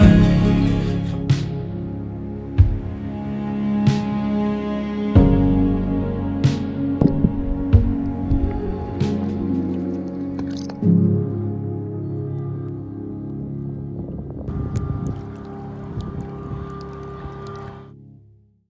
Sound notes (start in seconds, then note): 11.0 music fades out; 14.1 water lapping